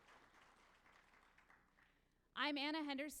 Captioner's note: applause